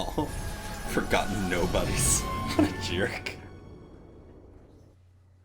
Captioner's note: laughs